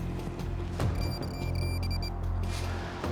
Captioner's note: pinpointer beeping